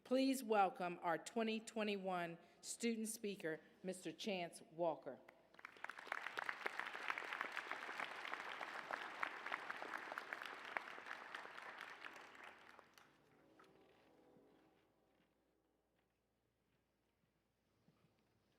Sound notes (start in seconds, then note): 5.4 applause